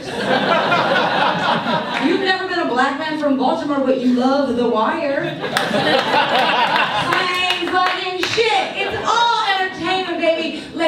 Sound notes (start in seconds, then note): 0.0 audience laughs; 5.2 audience laughs